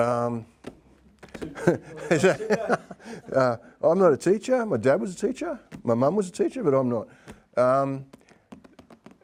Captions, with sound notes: (chuckling) I'm not a teacher, my dad was a teacher, my mom was a teacher, but I'm not,